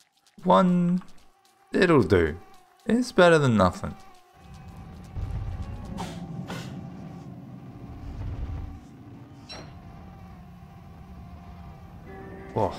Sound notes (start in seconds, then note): 4.0 mosquito buzzing; 5.8 tentacle whips; 7.0 mosquito buzzing